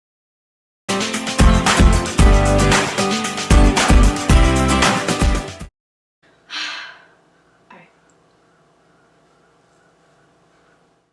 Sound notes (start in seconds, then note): 6.4 sigh